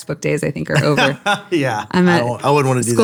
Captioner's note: laughing